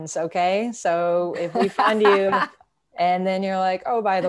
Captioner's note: laughing